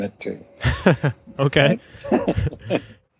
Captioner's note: laughter